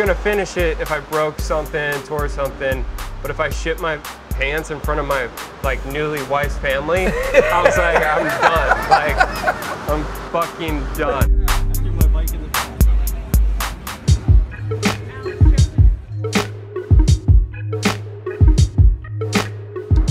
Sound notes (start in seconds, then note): 8.5 laughs